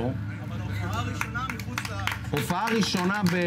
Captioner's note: applause